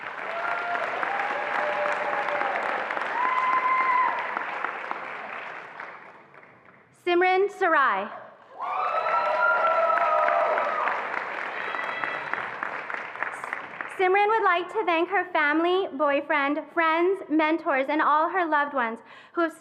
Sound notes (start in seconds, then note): 0.0 attendees applauding and cheering; 8.5 attendees applauding and cheering